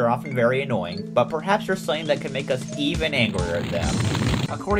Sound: angry sound

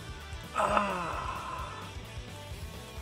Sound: more ejaculation noises

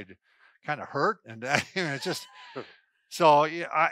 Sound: laughs

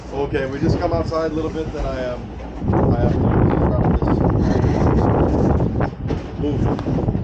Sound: strong wind

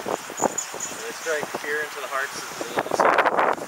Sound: wind noise

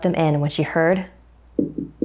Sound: knocking

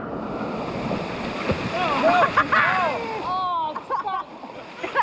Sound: shouting as gets stuck

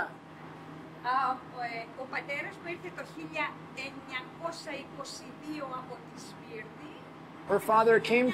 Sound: speaking Greek

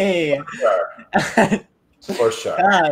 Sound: laughing

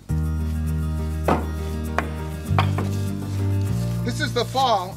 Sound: upbeat electronic music; wood pieces thump

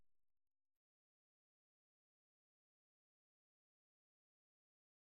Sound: silence

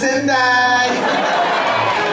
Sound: laughing

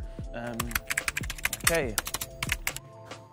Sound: typing

